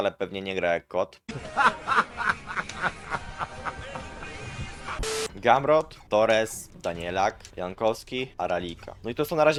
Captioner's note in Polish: śmiech